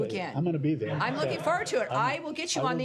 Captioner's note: laughter